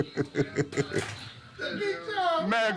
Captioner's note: laughs; door opens